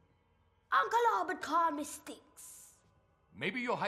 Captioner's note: jamaican accent